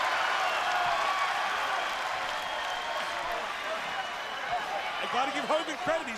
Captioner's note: crowd cheering